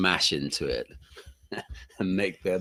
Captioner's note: laughs